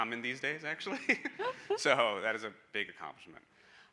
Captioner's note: all chuckling